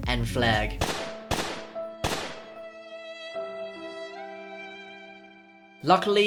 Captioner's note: gunshots; sad violin